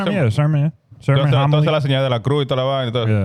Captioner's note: speaking In Foreign Language